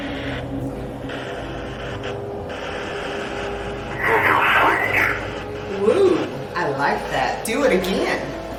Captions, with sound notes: (equipment murmurs) Woo! I like that, do it again.